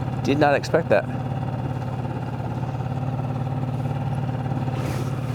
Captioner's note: motor burbling